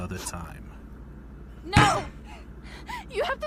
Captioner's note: Emilia slams her hand down